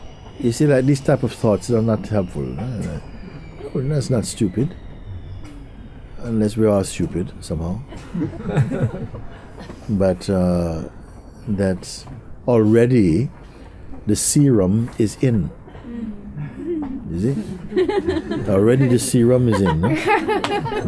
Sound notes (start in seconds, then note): 7.9 laughter